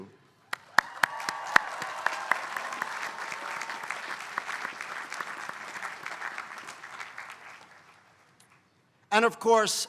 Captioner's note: applause